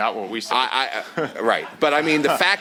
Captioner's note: chuckles